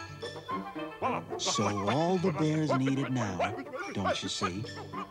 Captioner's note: exclaiming